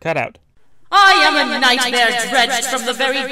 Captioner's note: voice echoing